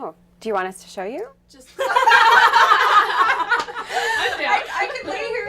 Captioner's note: laughter